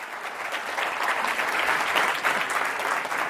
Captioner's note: applause